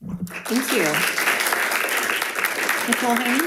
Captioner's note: audience applauding